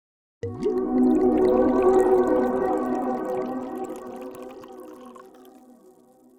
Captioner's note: liquid pouring; ambient music